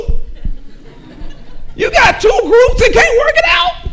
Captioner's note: audience chuckling